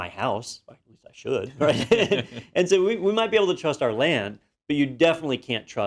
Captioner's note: laugh